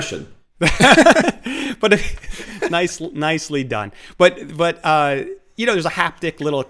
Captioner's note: laughs